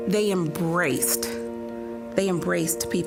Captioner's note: none